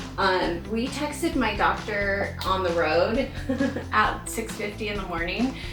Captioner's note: chuckles